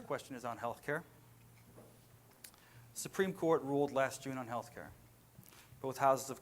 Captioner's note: none